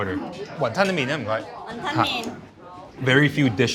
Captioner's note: speaking in foreign language